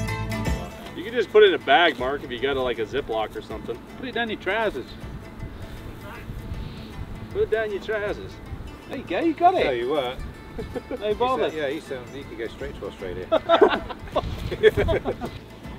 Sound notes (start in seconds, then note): 6.7 using an English accent; 13.2 everyone laughs